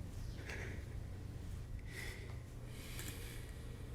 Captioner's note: breathing shakily